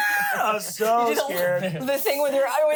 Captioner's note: shrieks